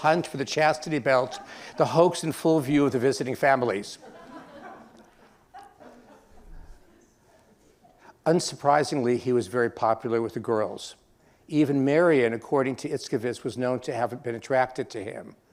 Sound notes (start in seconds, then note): 3.8 laughter